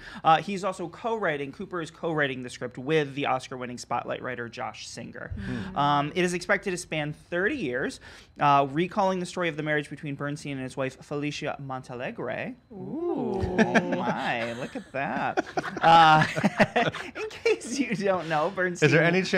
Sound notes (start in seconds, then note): 15.1 laughing